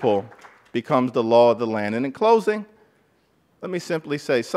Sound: applause

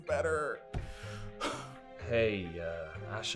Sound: breathing heavily

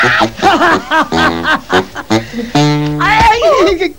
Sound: laughing

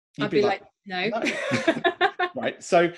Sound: laughs

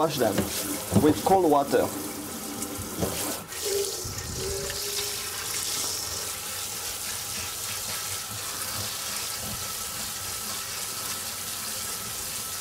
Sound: running water

